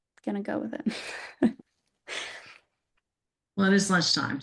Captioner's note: chuckles